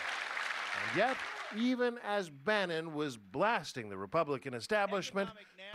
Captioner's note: cheers and applause